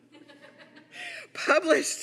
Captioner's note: audience laughing